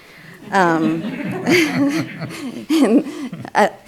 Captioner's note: laughing